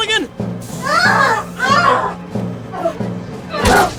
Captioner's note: howling